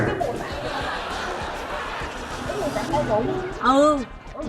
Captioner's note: laughing